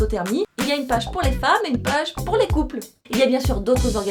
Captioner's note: only in French